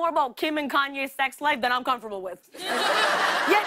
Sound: laughter

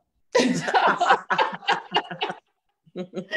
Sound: laughs

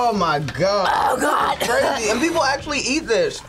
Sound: gags; coughs

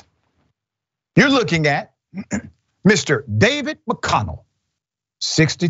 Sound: cough

